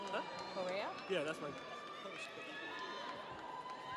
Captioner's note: audience applauds; audience cheers